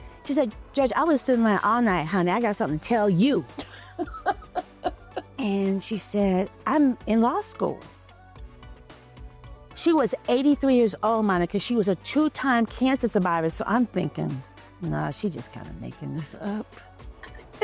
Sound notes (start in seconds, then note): 3.6 laughter